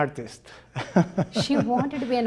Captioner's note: laughs